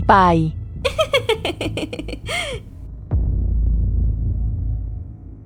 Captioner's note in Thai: เสียงหัวเราะ